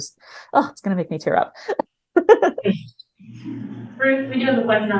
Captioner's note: chuckles